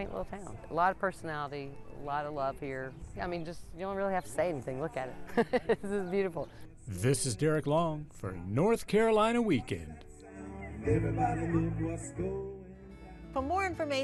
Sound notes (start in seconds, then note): 5.2 laughing